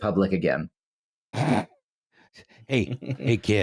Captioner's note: snort-laughs